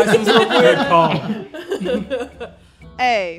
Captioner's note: laughing